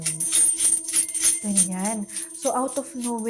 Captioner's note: sound of payals